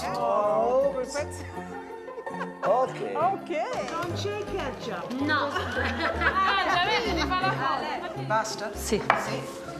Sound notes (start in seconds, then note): 3.4 speaking Italian